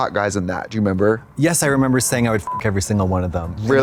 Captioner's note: beep